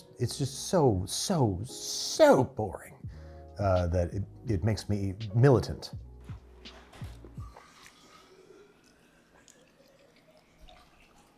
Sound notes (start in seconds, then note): 8.9 water sploshes